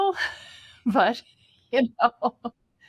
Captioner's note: laughs